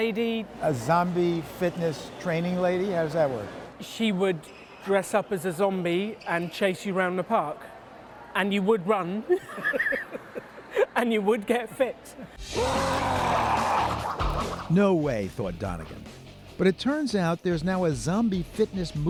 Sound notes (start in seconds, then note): 12.6 laughter